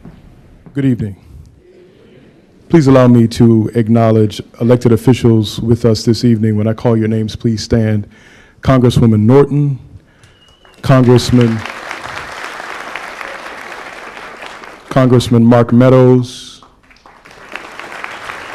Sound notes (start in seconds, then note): 12.2 applause; 18.3 applause